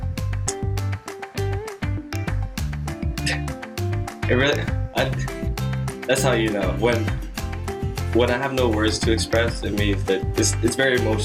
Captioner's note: laughs